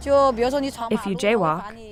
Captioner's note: speaking foreign language